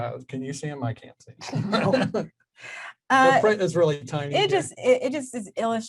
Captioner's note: both chuckle